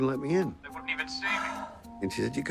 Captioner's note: Maggie sighs